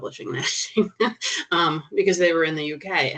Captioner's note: chuckling